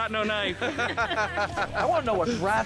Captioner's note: laughing